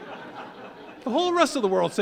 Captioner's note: audience laughing